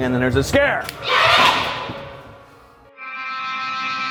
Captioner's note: scream; scary music